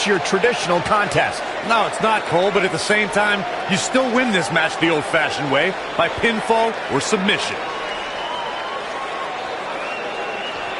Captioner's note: crowd goes apeshit